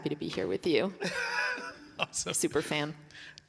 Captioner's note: laughing